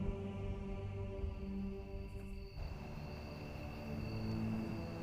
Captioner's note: crickets chirping; soft dramatic music